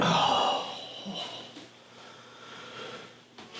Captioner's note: Scott groans